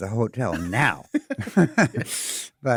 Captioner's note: chuckles; laughing